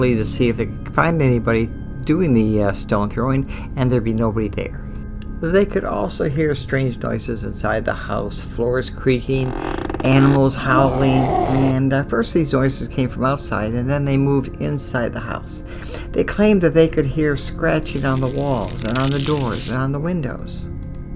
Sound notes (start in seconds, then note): 9.2 floor creaks; 11.2 animal howls